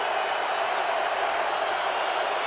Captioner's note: crowd cheering